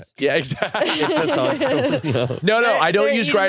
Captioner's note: laughs